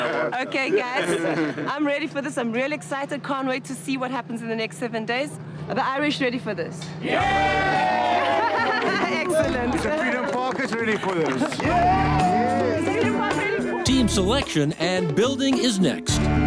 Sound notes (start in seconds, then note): 7.0 crowd cheers; 16.2 upbeat music